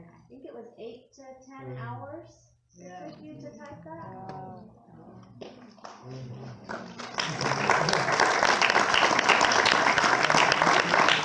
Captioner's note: applause